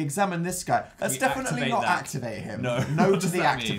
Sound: laughs

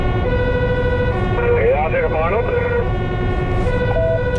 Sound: other unit over radio

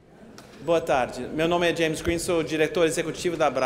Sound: speaking portuguese

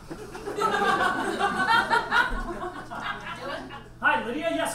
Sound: audience laughs

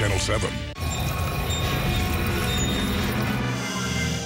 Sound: grinding metal

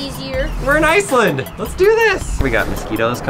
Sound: voiceover

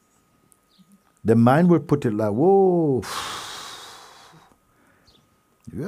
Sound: strong exhale

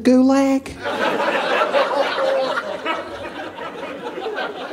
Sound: audience laughing

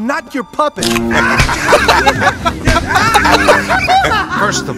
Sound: Django and Emile continue to laugh

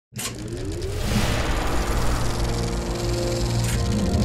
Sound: film reel spooling up

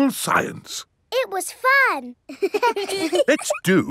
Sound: children laughing

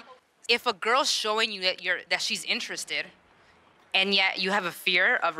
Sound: none

